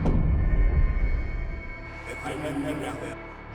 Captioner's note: ghostly chatter